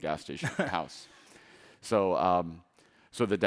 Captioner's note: laughing